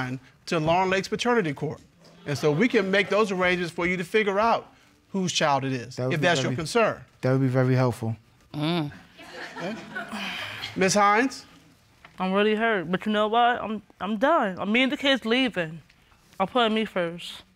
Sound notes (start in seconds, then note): 9.2 audience laughing